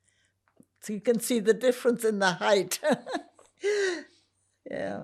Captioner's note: laughing